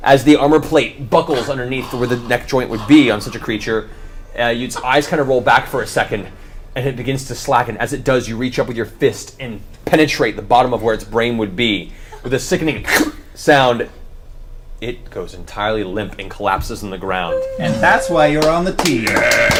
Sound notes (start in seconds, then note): 13.7 suction